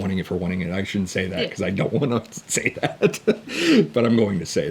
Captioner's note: laughs